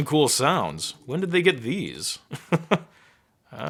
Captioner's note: chuckling